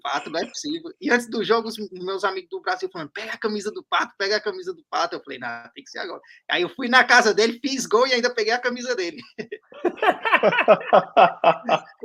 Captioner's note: laughs